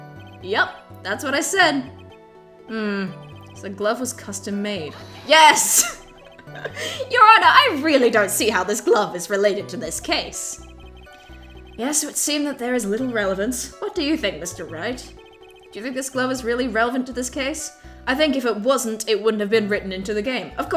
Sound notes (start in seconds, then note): 4.8 laughs